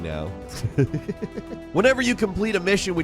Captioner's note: laughs